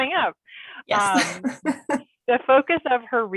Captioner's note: laughing